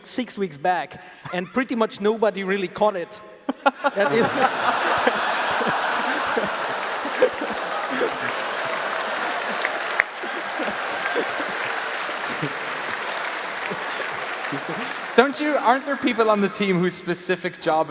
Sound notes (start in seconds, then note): 4.3 laughs; 8.6 applause